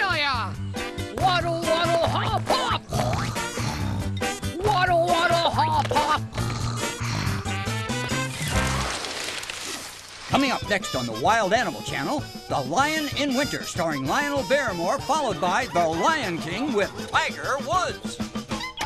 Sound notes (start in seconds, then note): 3.0 snore snore; 6.4 snore snore